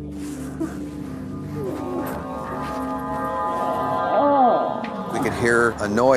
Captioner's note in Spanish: Ruido de gemidos